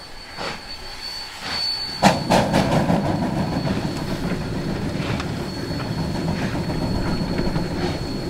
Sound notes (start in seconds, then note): 1.9 Rotary exhaust